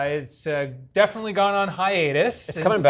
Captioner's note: laughter